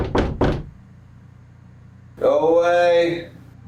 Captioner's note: loud knock on door